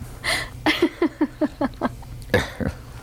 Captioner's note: laughter